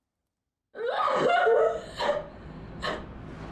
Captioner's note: crying